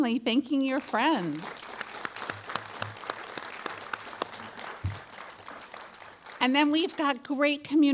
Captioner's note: applause